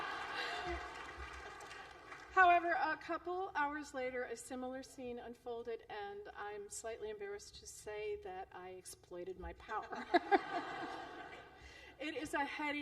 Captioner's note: laughter; laughter